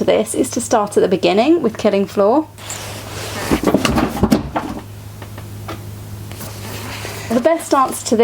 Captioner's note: big noise of books crashing to the floor